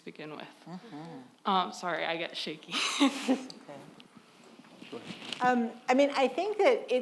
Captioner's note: lady chuckles